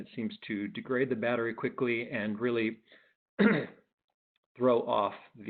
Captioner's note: clears throat